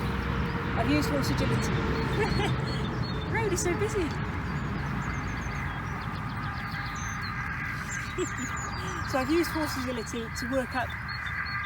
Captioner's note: car noise